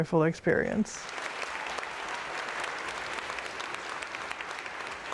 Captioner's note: audience clapping